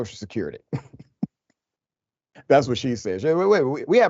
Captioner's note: laugh